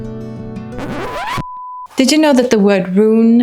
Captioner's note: record scratch